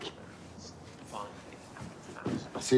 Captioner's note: radio Announcer